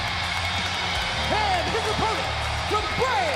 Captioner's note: crowd cheering